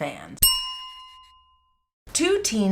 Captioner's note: bell chime